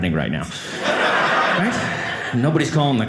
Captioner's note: audience laughing